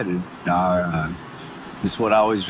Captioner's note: busy city background